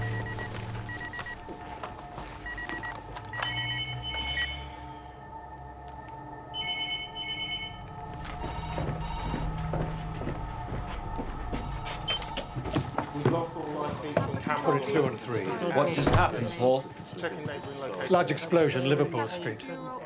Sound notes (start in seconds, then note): 2.4 phone ringing; 8.5 phone ringing